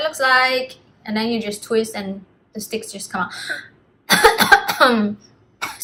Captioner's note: cough cough